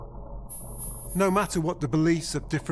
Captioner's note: static humming